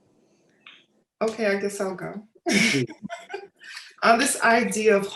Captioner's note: laughs